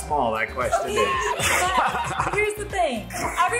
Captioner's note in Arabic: يضحك